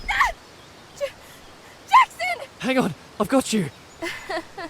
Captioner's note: weak laugh